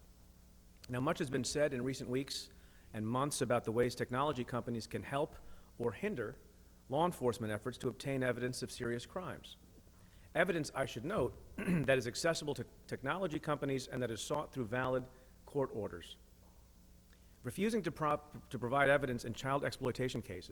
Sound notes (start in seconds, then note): 11.5 clears throat